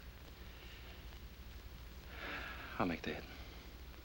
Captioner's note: sighs